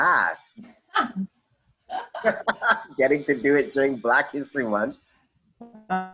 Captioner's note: laugh